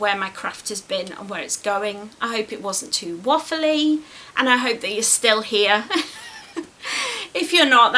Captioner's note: laughs